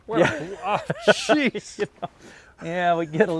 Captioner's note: laughs